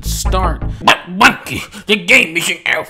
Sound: imitating commenters

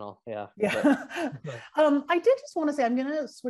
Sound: laughs

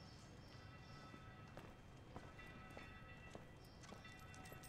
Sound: footsteps

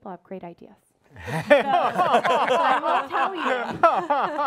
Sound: everyone laughs

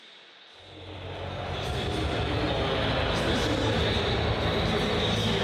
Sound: people chattering

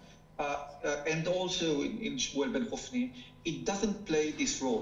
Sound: speaking foreign language

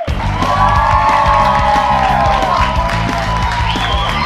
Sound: cheers and applause

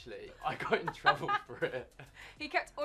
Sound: laughs

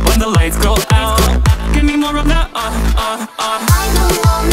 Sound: ah ah ah

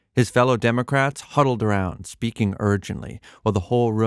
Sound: none

